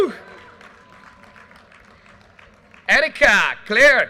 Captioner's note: audience cheers and applause